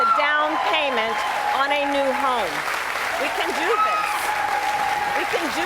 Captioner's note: cheers and applause